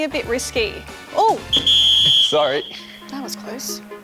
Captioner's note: whistle